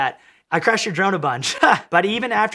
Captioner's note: laughing